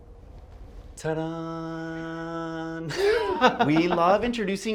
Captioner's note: laughs